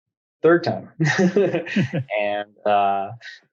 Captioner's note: laughs